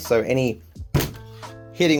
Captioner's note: bangs desk